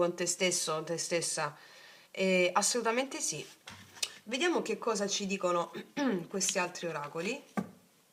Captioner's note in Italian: schiarire la voce